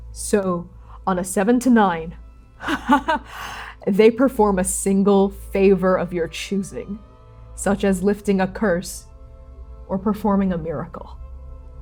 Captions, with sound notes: So on a seven to nine, [soft, delighted laughter] they perform a single favor of your choosing, such as lifting a Curse or performing a miracle.